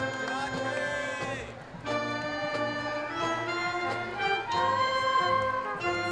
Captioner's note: crowd cheering; person in audience shouting